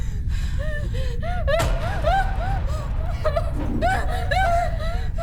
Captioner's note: Abby whimpers and pants